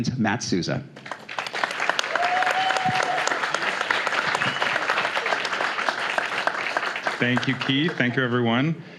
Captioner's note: applause